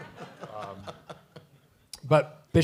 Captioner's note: laughter